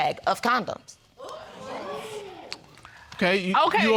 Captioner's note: audience exclaiming